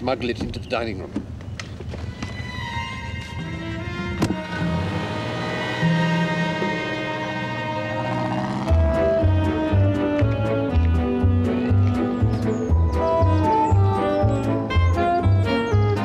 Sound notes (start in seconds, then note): none